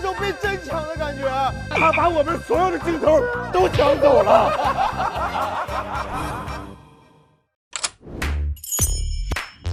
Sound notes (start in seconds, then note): 4.0 hahahaha